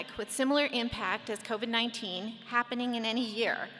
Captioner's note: none